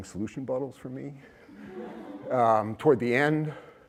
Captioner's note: laughter